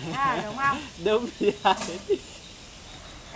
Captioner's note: laugh